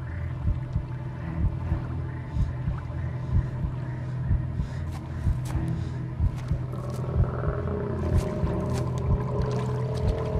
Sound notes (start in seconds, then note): 7.1 crocodile growls